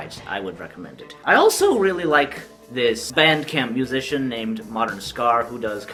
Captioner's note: voice cracking